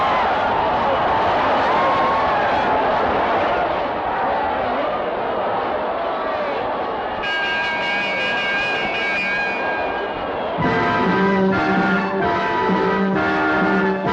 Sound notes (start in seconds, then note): 7.2 bell ringing; 10.9 exciting horn music